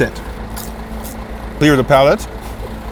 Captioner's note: crunches